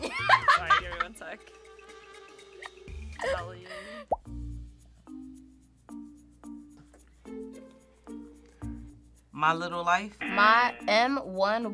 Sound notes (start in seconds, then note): 0.1 laughs; 10.2 buzzer